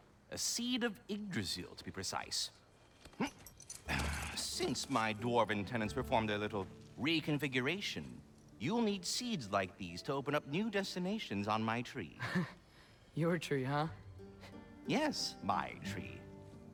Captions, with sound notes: A seed of Yggdrasil, to be precise. Since my dwarven tenants performed their little.. reconfiguration... ...you’ll need seeds like these to open up new destinations on my tree. (laugh) Your tree, huh? Yes, my tree.